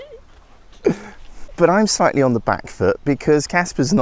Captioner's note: laughter